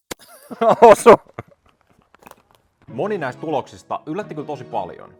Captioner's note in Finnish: naurua